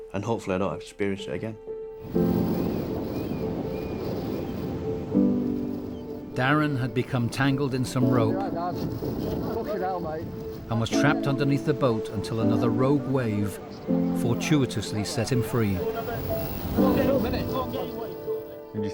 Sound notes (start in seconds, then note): 2.1 gentle music; 2.2 birds squealing; 3.8 waves crashing; 10.0 water splashing; 15.6 crew chattering